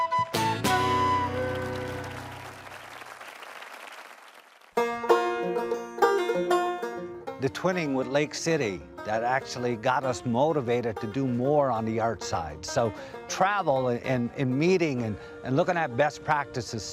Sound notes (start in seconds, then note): 1.2 applause; 4.8 banjo plays